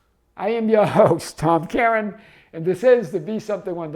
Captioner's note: chuckling